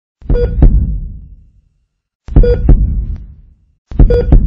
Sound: heart beating

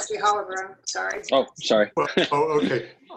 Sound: laughter

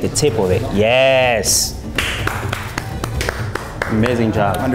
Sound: claps

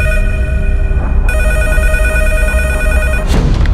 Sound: phone rings

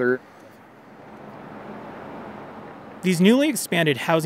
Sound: car whooshing

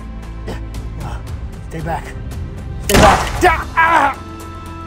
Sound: struggling sounds

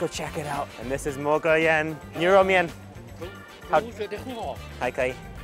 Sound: speaks in Chinese

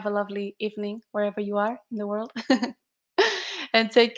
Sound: chuckles

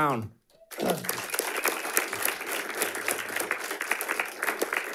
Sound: audience applauding

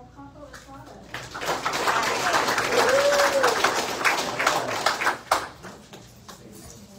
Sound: audience applauds

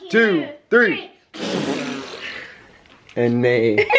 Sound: blowing raspberries

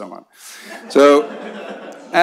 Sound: laughter

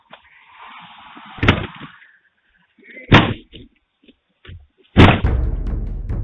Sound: banging on door continues; suspenseful music

